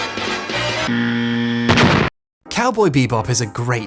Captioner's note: buzzer buzzing; explosion booms